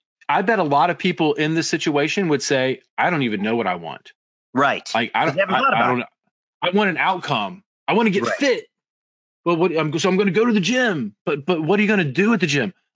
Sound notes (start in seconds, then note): 4.6 both chattering